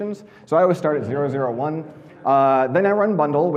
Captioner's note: audience laughing